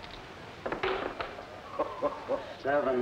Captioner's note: dice clattering